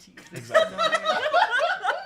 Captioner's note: chatter off camera; off-camera laughing